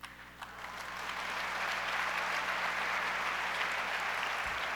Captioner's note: audience applauds